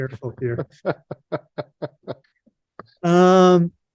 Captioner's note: laughing